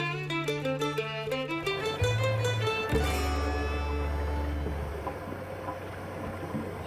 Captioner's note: motorboat engine running